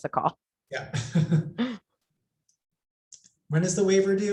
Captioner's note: laughs